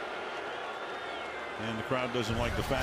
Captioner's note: booing